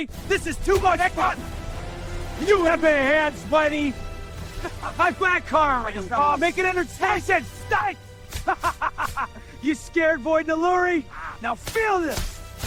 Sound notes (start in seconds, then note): 6.2 arguing and fighting; 8.3 evil laughs